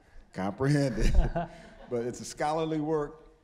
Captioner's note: scattered laughing